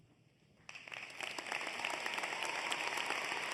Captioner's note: applause